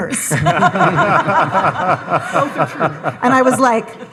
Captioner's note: all laughing